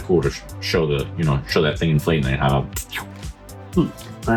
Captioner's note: mouth noise